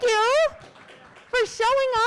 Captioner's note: audience claps